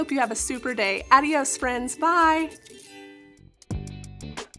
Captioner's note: speaking in foreign language; bright upbeat music